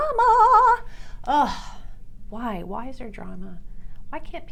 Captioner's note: groaning